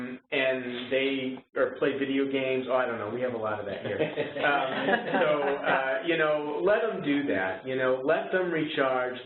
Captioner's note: chuckles